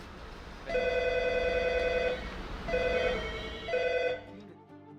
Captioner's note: phone ringing